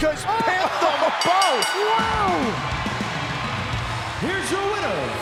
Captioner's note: bell rings